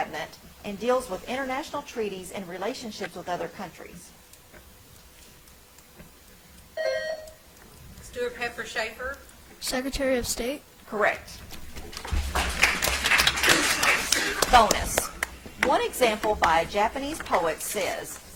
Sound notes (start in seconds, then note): 6.8 bell ringing; 12.2 audience applauds